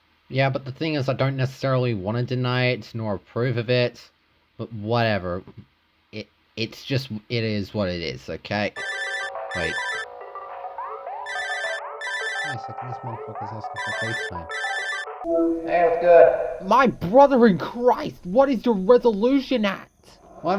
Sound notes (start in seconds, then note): 8.8 ringtone; 11.4 ringtone continues